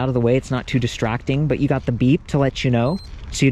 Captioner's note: bike beeps